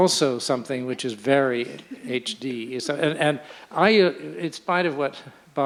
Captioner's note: laughter